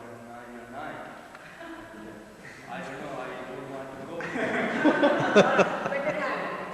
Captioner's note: laughter